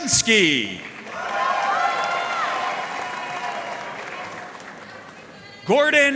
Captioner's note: audience cheering and applauding